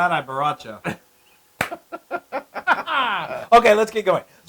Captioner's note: laugh